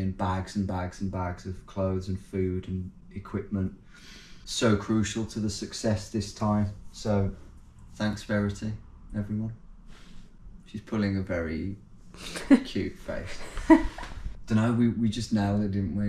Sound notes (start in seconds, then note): 13.2 laughing